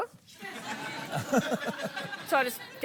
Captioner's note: laughs